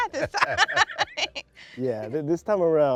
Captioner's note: laughs